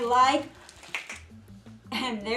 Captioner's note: finger snap